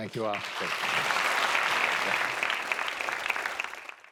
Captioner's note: applause